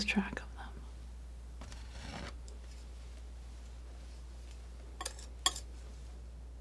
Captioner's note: scratching